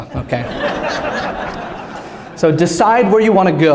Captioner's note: laugter